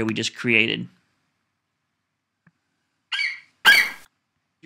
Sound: FlightCheck eagle screeches

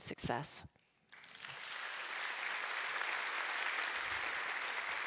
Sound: audience applauding

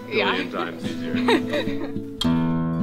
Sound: laughs; guitar strumming

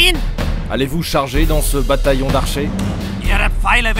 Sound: French

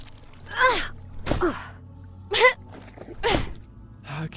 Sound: grunt

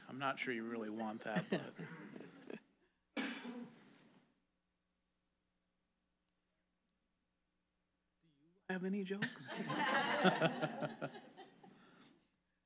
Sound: laughter

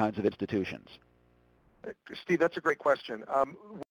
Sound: voiceover

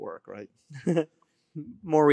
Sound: laughing

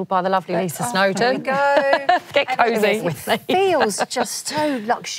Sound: laughter

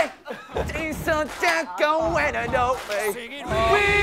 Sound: tearing up

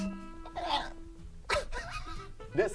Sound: squeals & hyperventilates

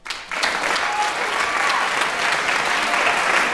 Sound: applause

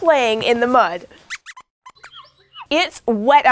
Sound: squeaks squeaks

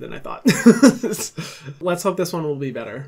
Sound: laughs

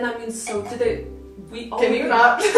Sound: gags; laughter

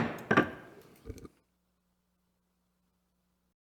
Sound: gavel bangs

